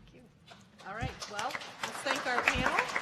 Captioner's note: audience applauding